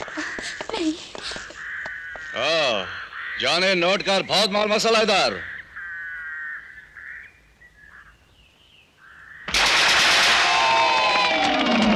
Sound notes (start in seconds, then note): 9.4 gunfire